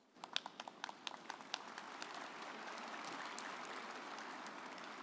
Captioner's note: audience applauding